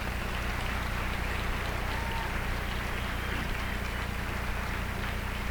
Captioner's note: applause